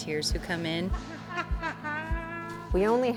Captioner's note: laughs